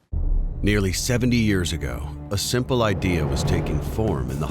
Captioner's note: voiceover